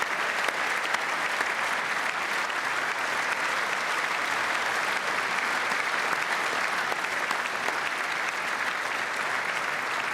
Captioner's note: applause